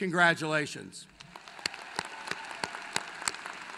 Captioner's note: applause